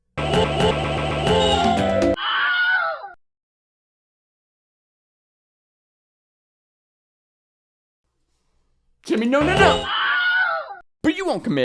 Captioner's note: yoooooo